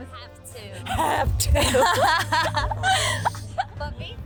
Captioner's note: laughing